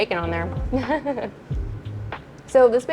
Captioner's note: laughs softly